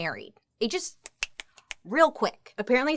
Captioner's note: fingers snapping